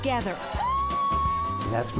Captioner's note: crowd cheering